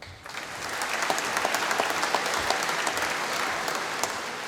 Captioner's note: applause